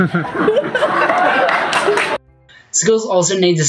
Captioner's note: audience laughs